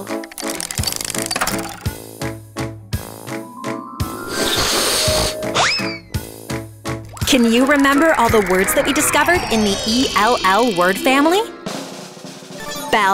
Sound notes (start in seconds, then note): 0.1 cranking; 4.5 sniffing; 12.1 drum roll